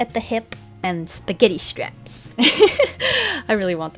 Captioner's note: laughs, deep inhale